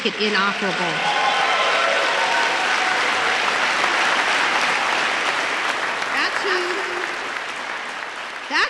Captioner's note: applause